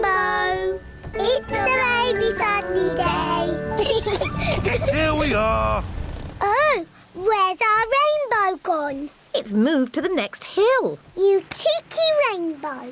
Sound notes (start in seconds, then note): 3.8 both laugh